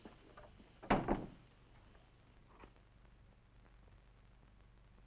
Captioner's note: door thudding